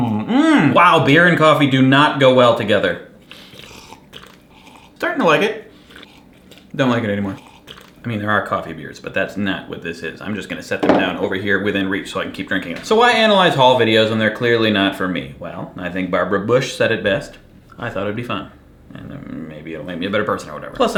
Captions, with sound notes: Mmm. Mmm! Wow, beer and coffee o not go well together. [slurps beer and coffe separately] Starting to like it. [slurps] Don't like it anymore. [slurps] I mean, there are coffee beers, but that's not what this is. I'm just gonna set it down over here within reach so I can keep drinking it. So, why analyze haul videos when they're clearly not for me? Well, I think Barbara Bush said it best: I thought it'd be fun. Maybe it'll make me a better person or whatever.